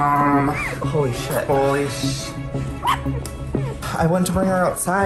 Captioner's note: puppy Barks